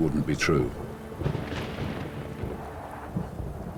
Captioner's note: thunder rumbling